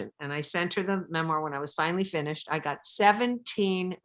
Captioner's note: none